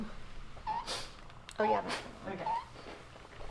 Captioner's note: press squeaking